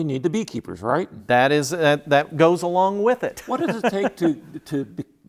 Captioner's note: laughing